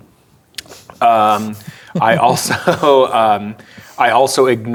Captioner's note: laughing